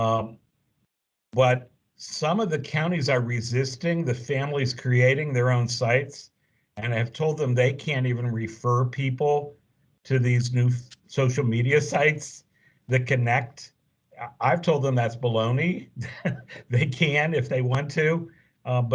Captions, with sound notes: but some of the counties are resisting the families creating their own sites, and have told them they can't even refer people to these new social media sites that connect. I've told them that's baloney. (laughs) They can if they want to.